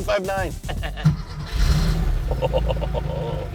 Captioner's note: laughs; engine starts; chuckles